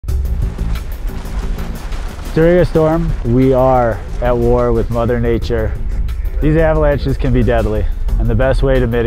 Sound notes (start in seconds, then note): 0.1 snow rumbling; 0.1 tense music